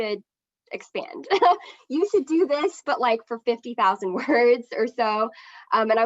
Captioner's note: laughs